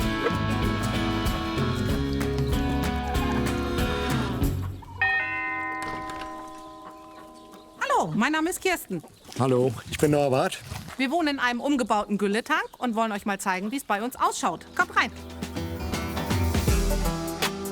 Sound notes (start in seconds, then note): 1.8 lighthearted music; 5.0 doorbell; 16.4 relaxing music